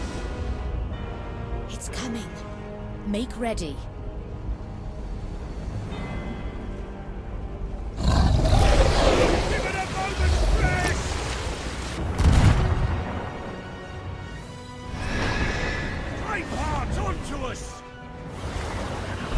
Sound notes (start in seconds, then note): 8.4 Merrick shouting; 14.8 phantom shrick